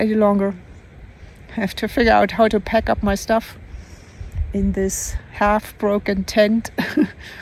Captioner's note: laughs